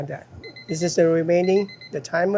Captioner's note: timer beeping